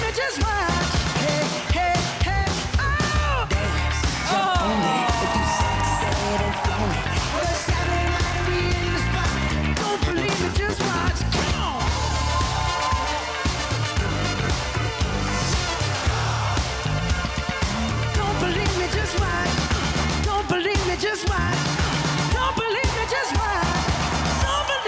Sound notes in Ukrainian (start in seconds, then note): 4.9 оплески; 12.5 оплески